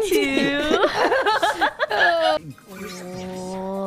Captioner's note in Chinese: 瘋笑